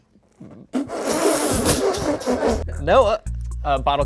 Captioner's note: group laughing